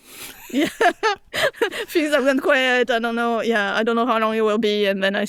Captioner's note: laughing